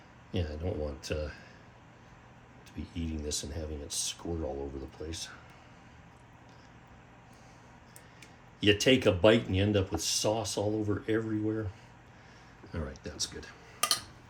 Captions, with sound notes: Yeah, I don't want to be eating this and having it squirt all over the place. [silence] You take a bite and you end up with sauce all over everywhere. All right, that's good.